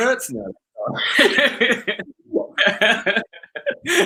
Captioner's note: both laugh